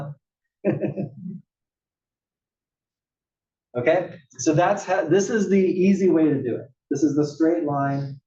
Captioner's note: laugh